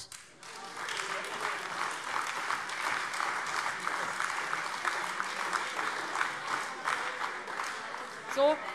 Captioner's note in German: Beifall AfD - Zurufe